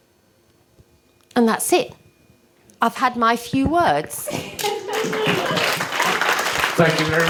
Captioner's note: applause